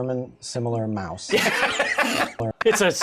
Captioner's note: laughter